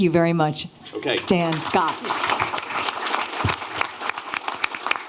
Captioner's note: applause